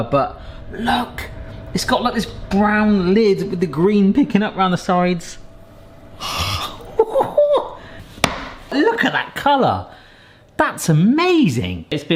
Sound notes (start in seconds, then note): 6.2 laughing